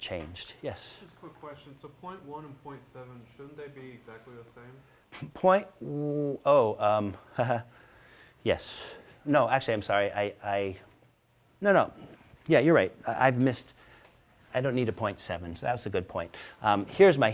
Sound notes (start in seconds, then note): 7.2 laughing